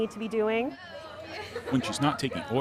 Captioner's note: girls giggling